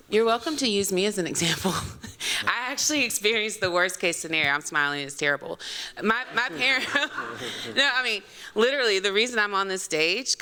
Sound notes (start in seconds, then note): 6.1 laughter